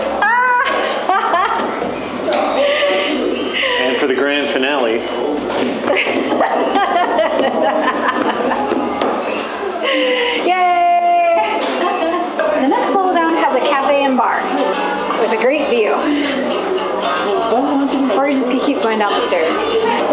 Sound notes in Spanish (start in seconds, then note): 0.4 risas; 5.9 explosiones y risas